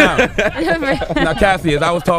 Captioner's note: group laughing